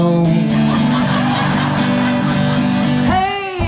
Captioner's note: audience laughs